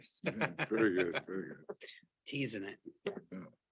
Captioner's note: board member chuckles